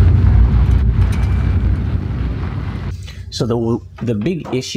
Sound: car clanking

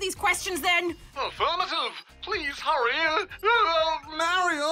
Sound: wails

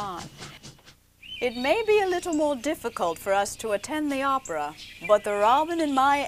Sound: birds chirping

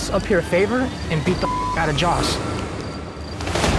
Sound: beep

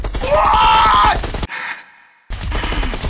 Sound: quiet laugh

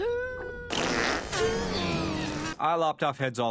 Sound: epic farting

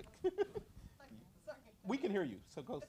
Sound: chuckles

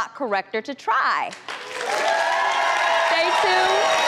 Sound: audience applauds and cheers

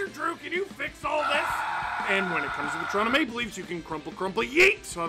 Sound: screaming

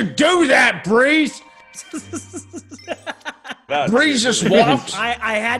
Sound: laugh

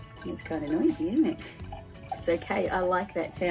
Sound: wine sploshes

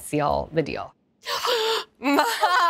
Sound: gasps

